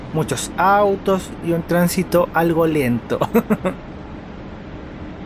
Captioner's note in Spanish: risas